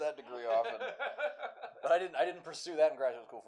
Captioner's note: laughter